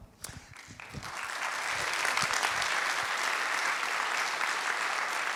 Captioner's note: audience applauds